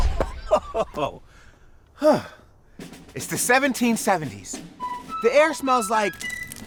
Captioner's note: laughing